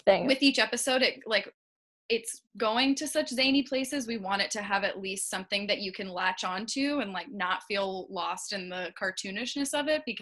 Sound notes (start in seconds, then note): none